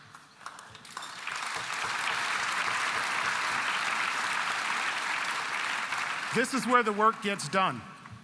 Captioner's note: applause